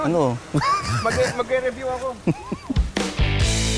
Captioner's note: laughs